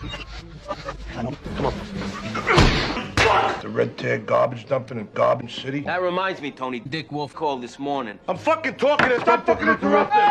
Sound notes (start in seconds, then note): 2.5 crotch-kneeing sound, amplified; 9.3 overlaid demonic voice